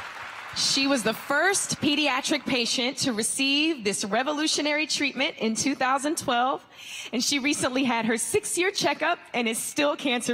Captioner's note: applause